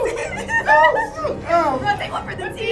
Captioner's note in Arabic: كلاهما يضحك